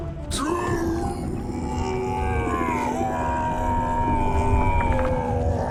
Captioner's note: yelling